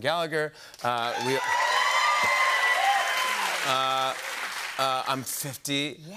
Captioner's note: cheers and applause